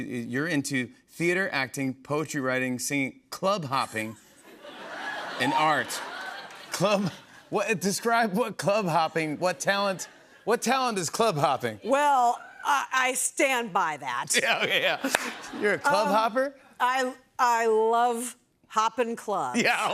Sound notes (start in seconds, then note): 4.9 audience cheers; 14.3 laughs